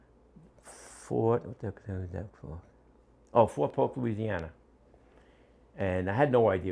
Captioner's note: mumbles